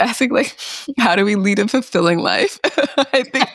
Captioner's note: laughs